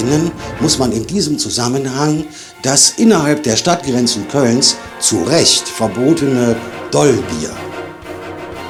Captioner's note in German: räuspern